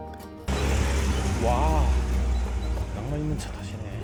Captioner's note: romantic jeeps passing by occasionally